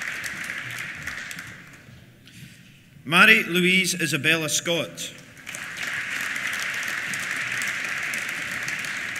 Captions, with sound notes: Mairi Louise Isabella Scott. (APPLAUSE)